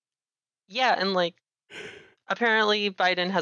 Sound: yawns

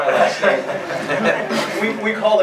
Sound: laughs

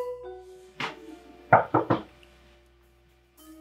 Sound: knocking

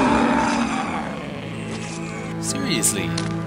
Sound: gunfire and monster roars

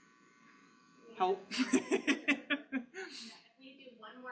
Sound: laughing

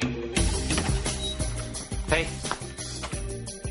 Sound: door creaks

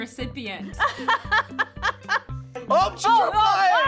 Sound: laughs

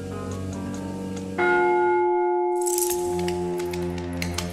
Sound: church bell rings; dog nails clacking on tile

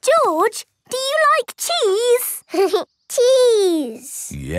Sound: giggling

